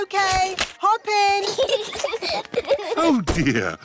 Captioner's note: peppa and george giggling